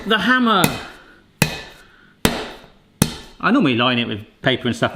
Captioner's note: hammer slamming